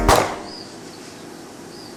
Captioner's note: gunshot